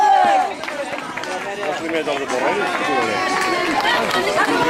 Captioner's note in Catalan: La gent anima i un home diu alguna cosa